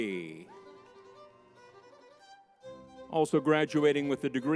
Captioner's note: lively music; crowd cheers